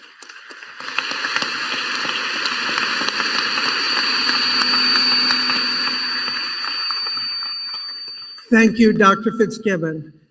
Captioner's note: applause